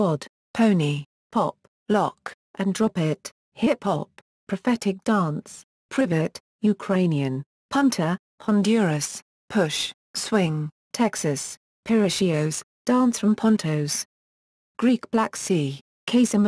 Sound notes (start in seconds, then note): 6.6 Ukrainian